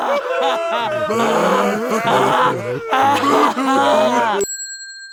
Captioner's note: guards wailing; bell dinging